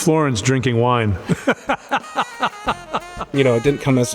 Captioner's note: laughs